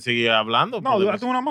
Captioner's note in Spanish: Hablando en idioma extranjero